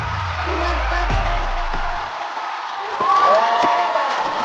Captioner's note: round of applause for performers